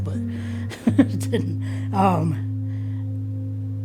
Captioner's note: laughs